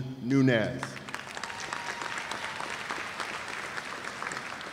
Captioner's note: cheers and applause